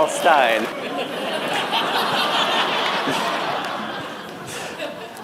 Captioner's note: laughter